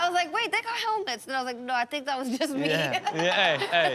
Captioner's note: laughs